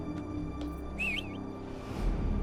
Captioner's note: whistles